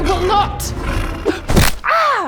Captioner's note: thunk!